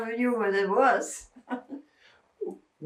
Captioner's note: laughing